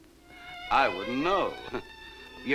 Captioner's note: chuckles